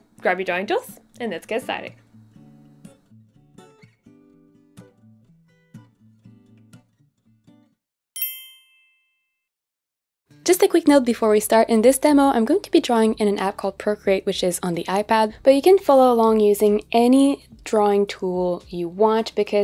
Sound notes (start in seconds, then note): 8.1 ding rings